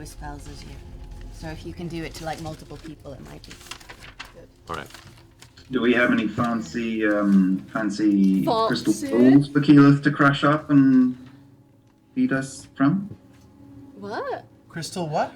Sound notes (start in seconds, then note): 8.5 posh voice